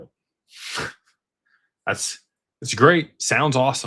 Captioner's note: snorts